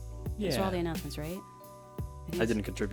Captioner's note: chuckles